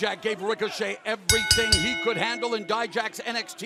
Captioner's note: bell ringing